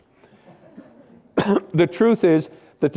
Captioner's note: laughter